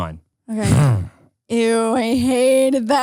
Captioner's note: groans